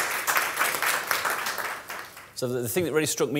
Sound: applause

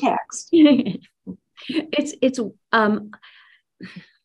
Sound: laughs

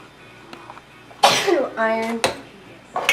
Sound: sneezes

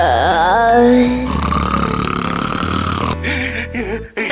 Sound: snoring

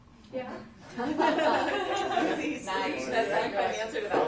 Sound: laughter

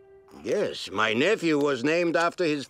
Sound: none

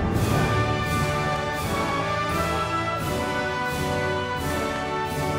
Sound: audience applauding

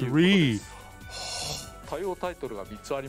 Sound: gasp

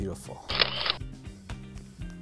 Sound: camera Shutter

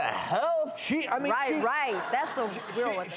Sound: audience oohs

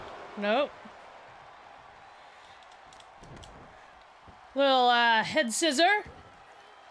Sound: applause

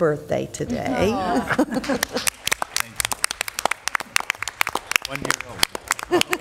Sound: applause

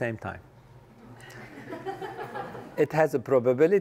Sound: laugh

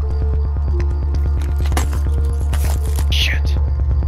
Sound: glass breaks

